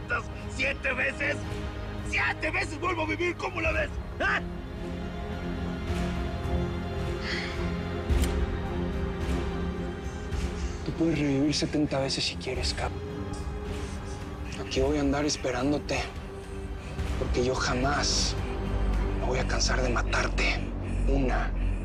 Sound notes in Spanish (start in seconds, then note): 4.8 Respiración agitada